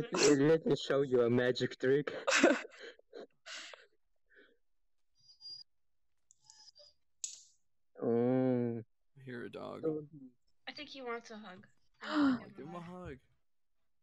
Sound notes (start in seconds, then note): 5.4 dog whining; 12.0 gasp